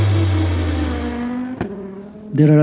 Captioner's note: car engine roaring